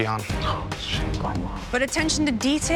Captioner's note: whispering